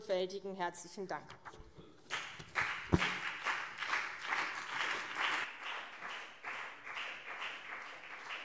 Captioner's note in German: Beifall CDU und BÜNDNIS 90/DIE GRÜNEN